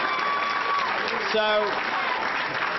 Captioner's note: applause